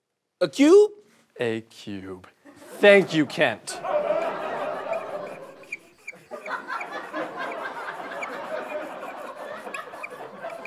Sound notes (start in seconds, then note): 4.7 squeaking; 8.6 audience laughter